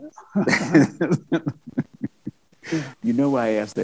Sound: laughs

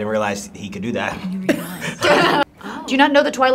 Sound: group laughs

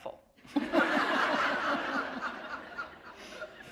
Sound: laughter

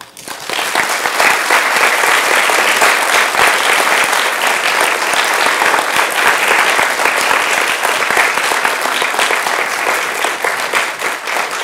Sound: applause

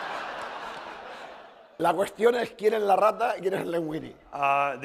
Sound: laughter; speaking spanish

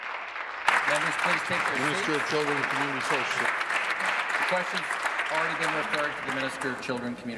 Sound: applause

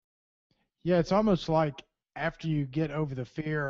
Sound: voiceover

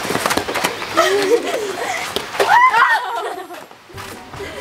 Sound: laughing and exclaiming

